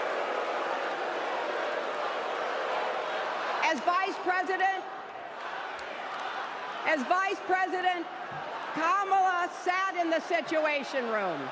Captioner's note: applause